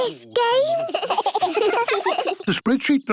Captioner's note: giggling